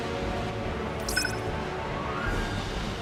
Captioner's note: device clicking, beeping